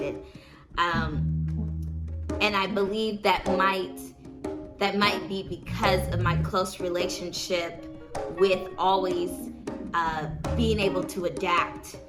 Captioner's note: ugh